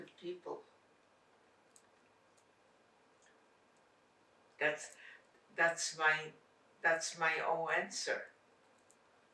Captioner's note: pauses 6 seconds